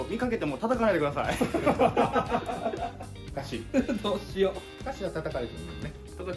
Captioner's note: laughs